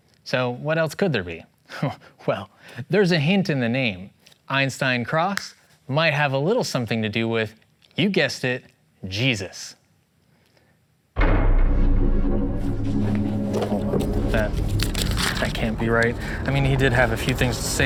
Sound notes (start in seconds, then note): 11.1 intense thud; 11.2 anxious strings